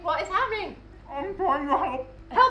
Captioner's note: mouth full